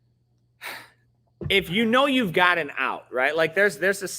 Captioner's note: sighs